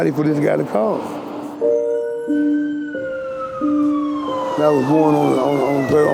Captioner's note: ambulance sirens